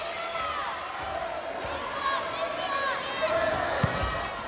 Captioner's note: players yelling